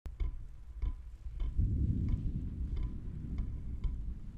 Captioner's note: image tapping